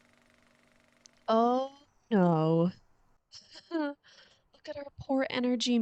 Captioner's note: laughs nervously